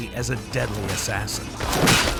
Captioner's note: whack